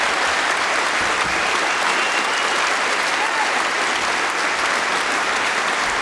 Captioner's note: cheering & Applause